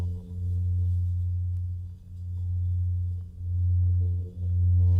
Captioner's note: droning, louder